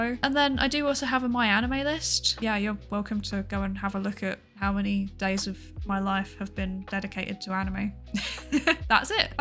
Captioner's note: laughs